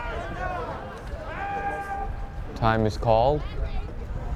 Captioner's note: umpire yells